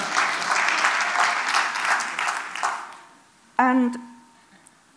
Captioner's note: Applause